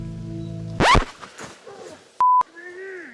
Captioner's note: record skip; groaning